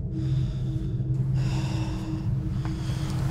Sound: Alex heavily exhales

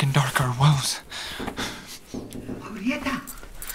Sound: gentle knocking

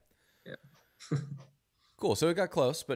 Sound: laughs

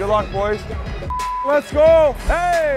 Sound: beeps

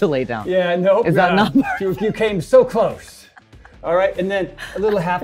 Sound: laughs

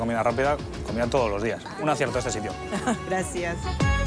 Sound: laughs

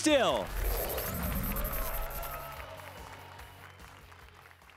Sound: applause and cheers

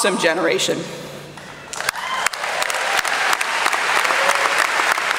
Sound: applause

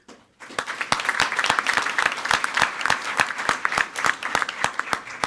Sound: everyone applauding

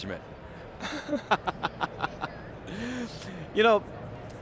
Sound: laughs

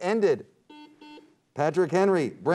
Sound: buzzer beeps

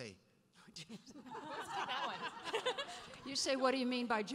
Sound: laughing

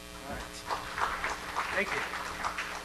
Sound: crowd applauds

